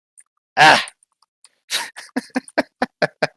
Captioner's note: laughs